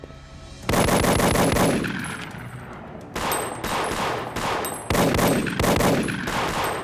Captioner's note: dramatic music; gunshots blasting